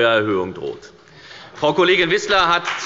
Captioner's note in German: Beifall bei der FDP